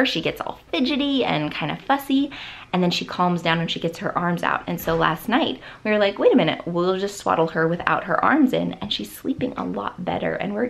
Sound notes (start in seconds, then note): none